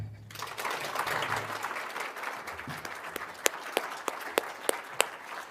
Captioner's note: applause